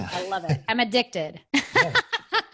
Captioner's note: laughs